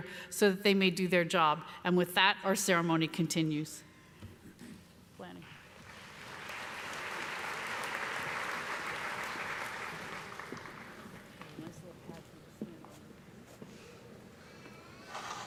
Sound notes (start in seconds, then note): 5.5 applause; 11.8 speaking off mic